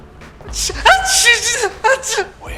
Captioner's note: Clive whimpering